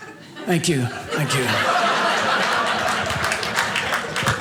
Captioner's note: audience laughing